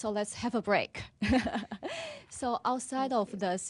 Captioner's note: laughter